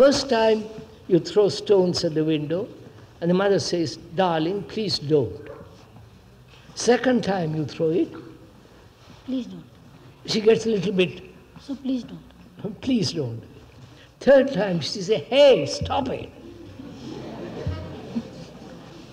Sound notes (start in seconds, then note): 16.4 laughs; 18.0 laughter